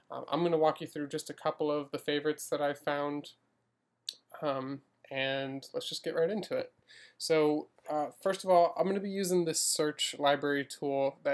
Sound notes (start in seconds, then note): none